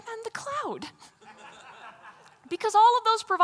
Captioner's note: laughter